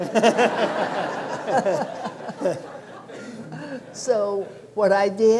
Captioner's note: laughter